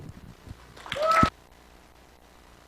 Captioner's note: applause